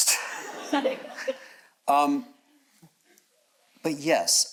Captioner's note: audience chuckles